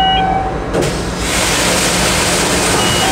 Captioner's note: starting of Main Engine